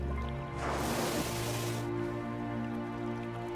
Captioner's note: water splashes